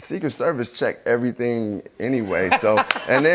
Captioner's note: laughter